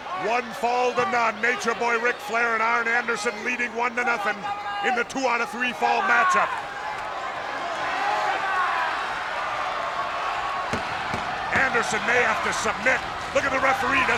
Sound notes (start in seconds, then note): 7.1 crowd cheering; 7.1 hands thudding